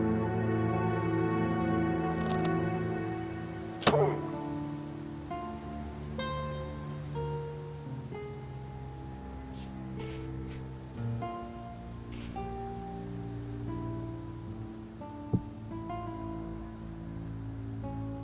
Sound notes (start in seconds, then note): 3.8 bow fires, the wolf cries as it dies; 9.8 footsteps